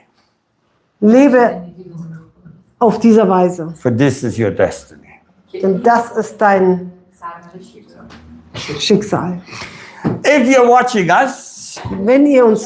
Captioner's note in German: schnauben